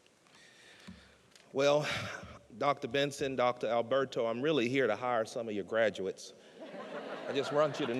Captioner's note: laughter